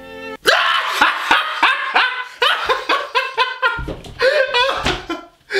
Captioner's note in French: rire